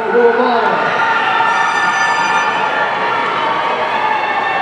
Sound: audience cheering

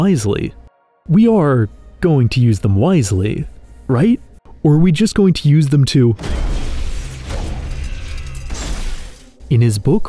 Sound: explosion

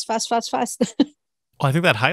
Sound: laughs

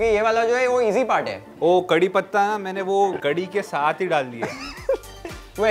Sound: laughs

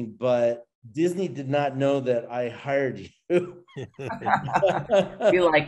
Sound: all laughing

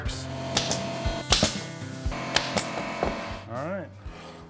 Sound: nail gun noise

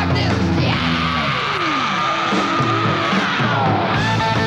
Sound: shrieking yell

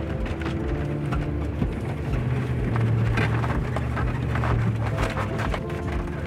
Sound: somber music; tires rumbling

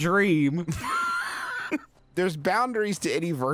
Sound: laughing

